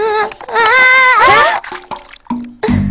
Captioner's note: Osaka wimpers; all scream